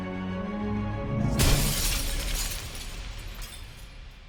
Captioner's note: glass shatters